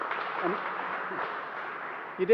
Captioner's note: applause